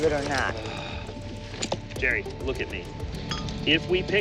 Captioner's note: sighs